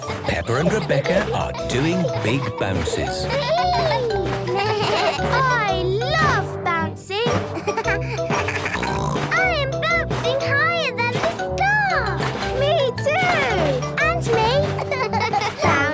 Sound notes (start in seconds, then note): 3.7 giggles; 5.0 bleating; 7.1 giggles, snorts